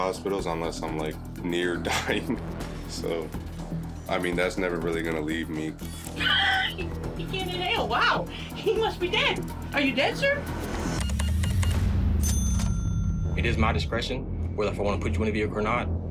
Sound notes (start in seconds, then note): 1.9 chuckles; 5.5 laughs; 10.8 beeps; 12.1 register dings